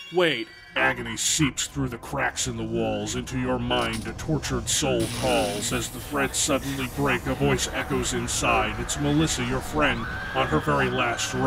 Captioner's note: reading with sinister voice